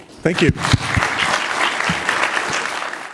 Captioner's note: applause